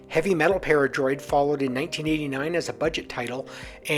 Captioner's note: none